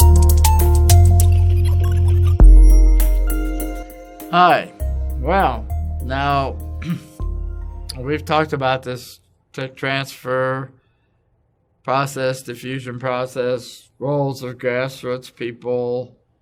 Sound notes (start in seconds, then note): 6.8 cough